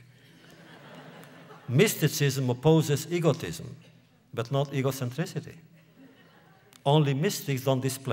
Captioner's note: laughter; laughter